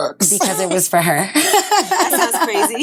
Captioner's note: laughs